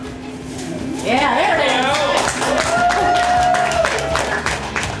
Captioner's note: crowd cheering